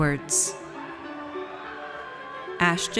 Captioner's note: audience cheers